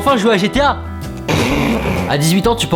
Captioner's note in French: rire